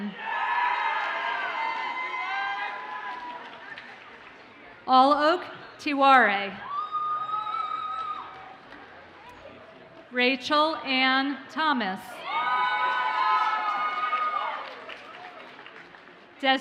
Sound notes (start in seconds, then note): 0.2 audience cheers and applauds; 6.8 audience cheers faintly; 12.2 audience cheers and applauds